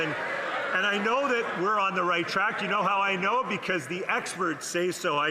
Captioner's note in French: voix de l'interprète